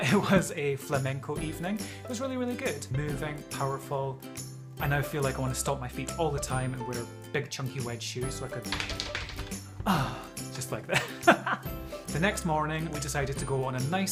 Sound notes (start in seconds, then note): 8.9 stamps feet